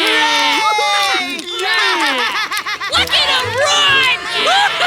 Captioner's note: cheering